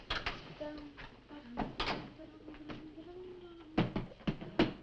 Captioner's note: Nan humming